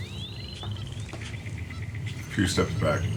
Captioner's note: birds calling in background; footsteps